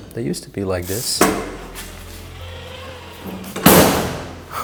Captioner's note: gates closing